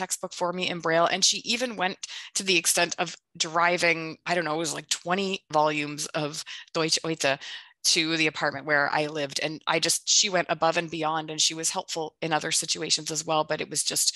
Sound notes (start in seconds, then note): 6.2 speaks German